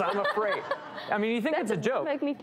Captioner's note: audience laughs